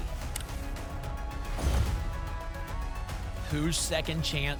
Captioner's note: thump; whoosh